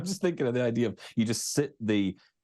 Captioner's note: laughs